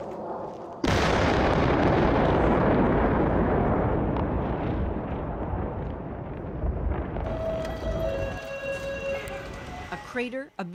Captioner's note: blasts